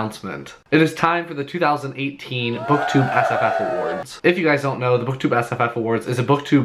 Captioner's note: cheers